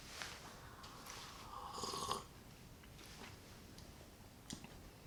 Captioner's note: sips tea